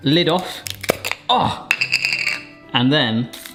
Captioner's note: lid thumping